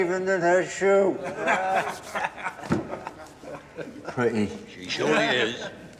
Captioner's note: men chuckle